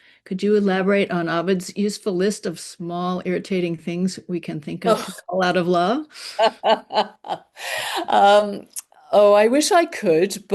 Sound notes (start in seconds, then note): 6.1 laughs